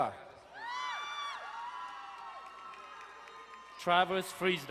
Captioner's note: crowd cheering and applauding